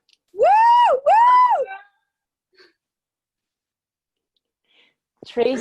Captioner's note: cheering